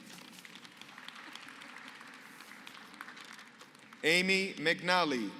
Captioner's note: applause